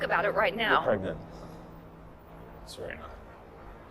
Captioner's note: voiceover